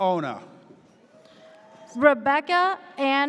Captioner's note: audience cheers